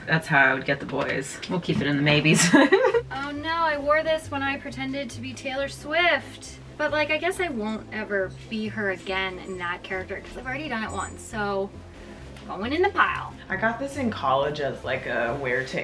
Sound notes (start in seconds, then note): 2.3 laughs